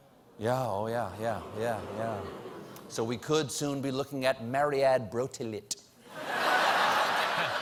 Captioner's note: laughter